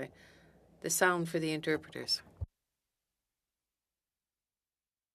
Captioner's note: speaking French